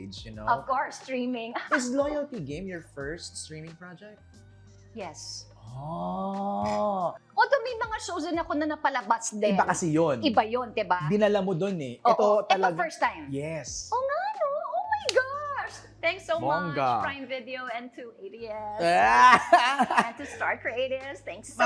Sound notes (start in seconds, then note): 18.8 laughs